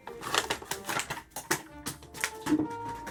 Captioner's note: drops tools